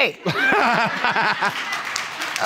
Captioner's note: crowd laughing